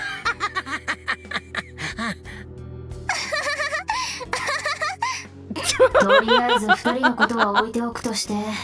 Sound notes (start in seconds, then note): 5.5 chuckles